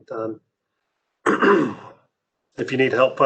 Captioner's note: clears throat